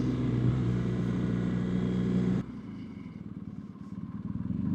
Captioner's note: engine Sound